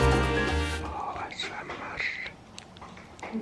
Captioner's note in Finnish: kuiskaa